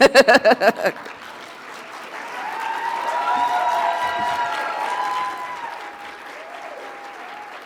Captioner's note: audience applauding; audience cheering